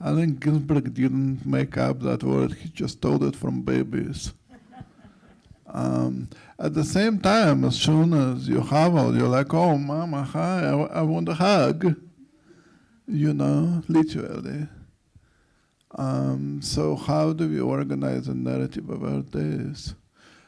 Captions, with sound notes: I think Ginsberg didn't make up that word, he just told it from babies. (all laugh) At the same time, as soon as you haval, you're like, "Oh mama, hi, I want a hug." You know, literally. So how do we organize a narrative about this?